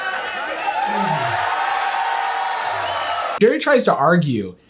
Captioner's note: crowd cheering